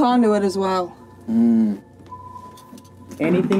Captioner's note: Gunderson hums